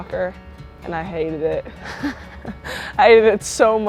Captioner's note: chuckles